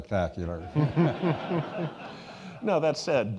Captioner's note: all laughing